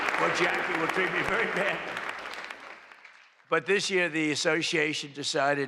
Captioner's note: applause